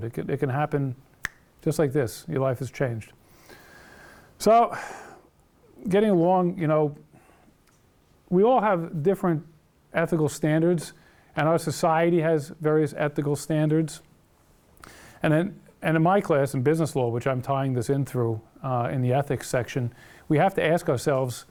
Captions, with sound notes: It can happen (snaps) just like this, your life is changed. So, getting along, you know, we all have different ethical standards and our society has various ethical standards and then, and in my class, in business law which I'm tying this in through in the ethics section, we have to ask ourselves